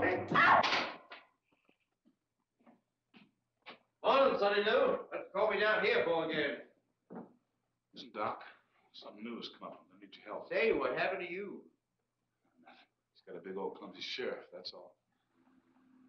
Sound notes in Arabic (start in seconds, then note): 0.2 تصرخ; 0.2 صفعة